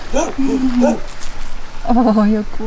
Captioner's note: dogs barking in background